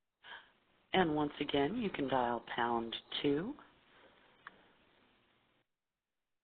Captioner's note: voiceover